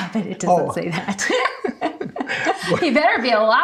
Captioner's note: both laughing